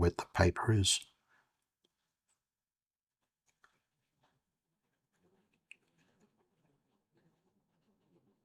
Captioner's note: silence